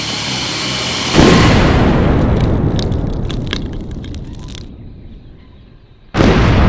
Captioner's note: blast; blast